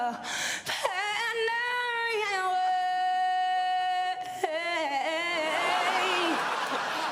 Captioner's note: studio audience laughs